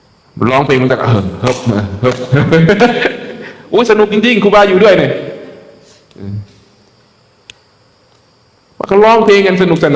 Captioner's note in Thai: เสียงหัวเราะ